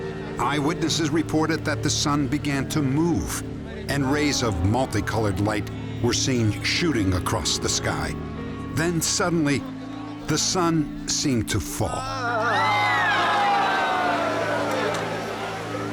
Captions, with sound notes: Eyewitnesses reported that the sun began to move, and rays of multi-colored light were seen shooting across the sky. Then suddenly, the sun seemed to fall. [crowd screams]